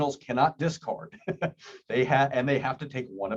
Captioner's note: laughs